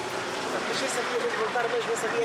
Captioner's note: Portuguese spoken audio